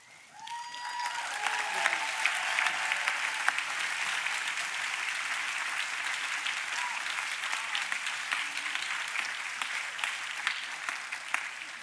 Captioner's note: applause